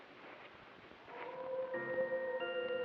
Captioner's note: howling; eerie music